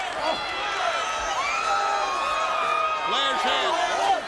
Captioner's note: crowd screaming